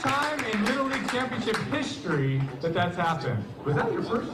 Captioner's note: cheers and applause